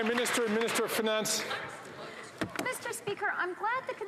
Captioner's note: some Applause